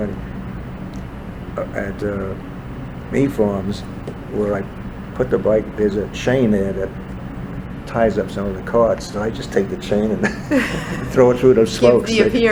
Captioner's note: all laugh